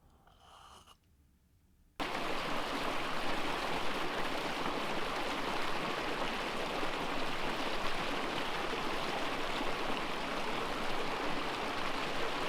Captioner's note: water flowing